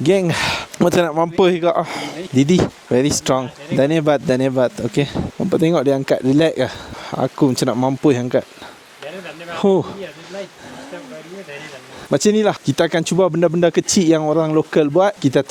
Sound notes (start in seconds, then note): 4.1 speaking Nepali